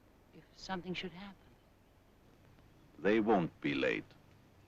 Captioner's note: none